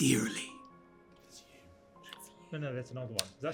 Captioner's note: whisper